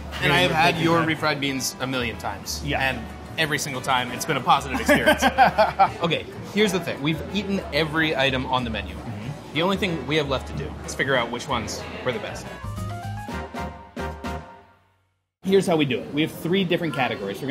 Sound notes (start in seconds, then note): 4.7 laughing; 12.0 upbeat music